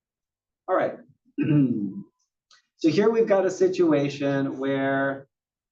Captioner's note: cough